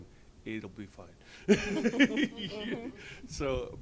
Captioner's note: laughs